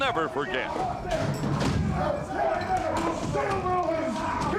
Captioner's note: crowd cheering; crowd chatter